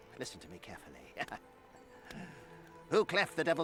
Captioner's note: laughs